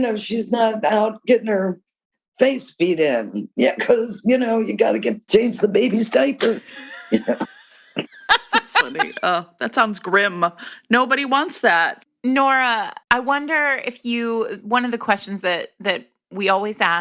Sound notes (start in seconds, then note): 6.4 laughter